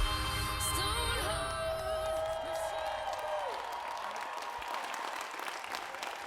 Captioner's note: attendees cheering and applauding